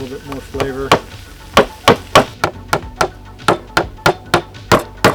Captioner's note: hammer pounding